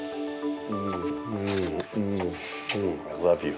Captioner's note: smooching